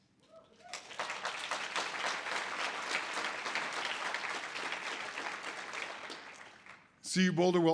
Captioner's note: audience applause